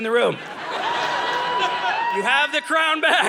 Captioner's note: audience laughing